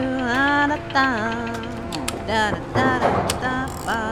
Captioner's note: machinery clanking